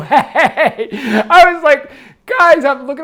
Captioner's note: laughs